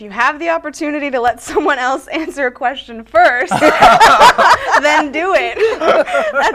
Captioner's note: laughter